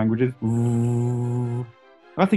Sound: impersonates vacuum cleaner sound

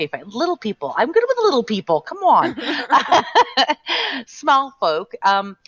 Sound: laughing

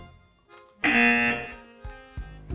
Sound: buzzer rings

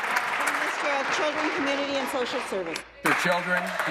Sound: applause

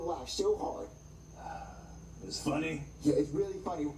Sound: sighs

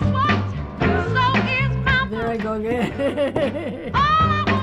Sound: laughing

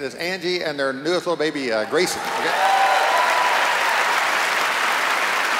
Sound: cheers and applause

